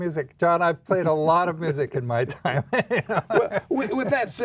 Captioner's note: laughs